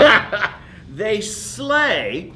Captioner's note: laughs